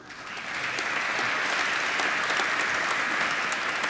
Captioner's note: applause